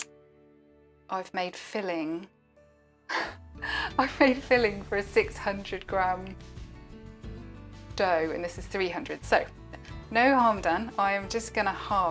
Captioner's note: gasp